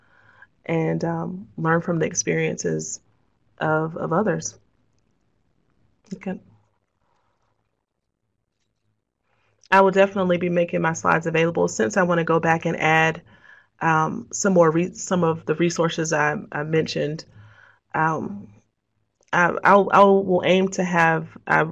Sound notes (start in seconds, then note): 7.6 silence